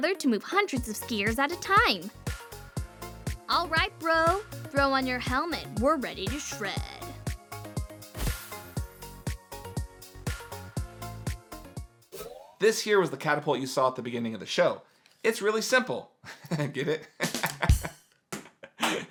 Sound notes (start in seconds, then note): 7.9 upbeat electronic music; 17.2 laughs